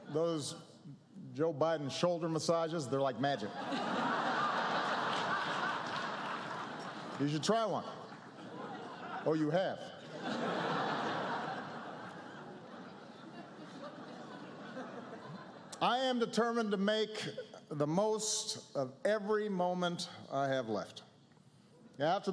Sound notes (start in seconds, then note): 3.4 laughter